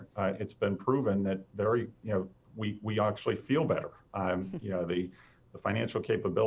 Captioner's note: chuckles